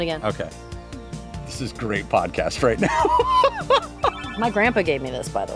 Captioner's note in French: rires